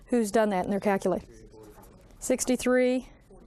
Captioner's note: student speaking faintly